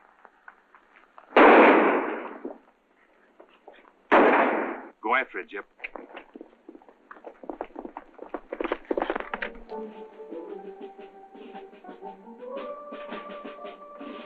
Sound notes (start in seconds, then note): 1.3 gunshots; 5.7 hooves galloping